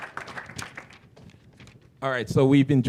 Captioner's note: applause